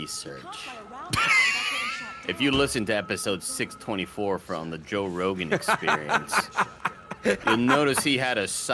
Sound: laughs

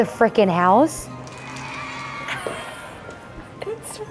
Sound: students cheer

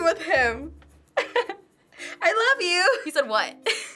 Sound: laughs; giggles

